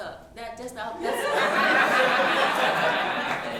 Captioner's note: laughing